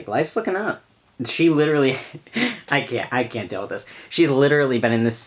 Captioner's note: laughs